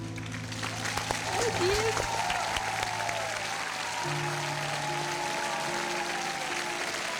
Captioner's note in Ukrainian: оплески